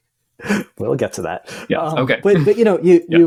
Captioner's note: laughs